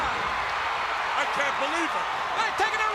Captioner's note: crowd cheering